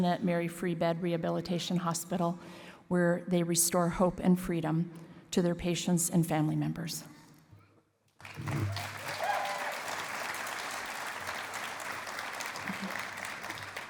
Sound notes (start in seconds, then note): 8.2 cheering and applause